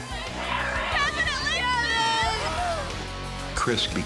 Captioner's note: sobbing